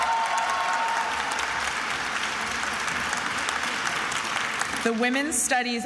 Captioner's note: attendees applauding and cheering